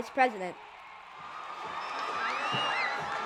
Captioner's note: cheers